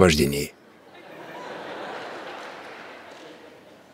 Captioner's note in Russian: смех